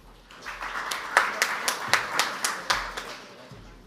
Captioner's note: audience applauds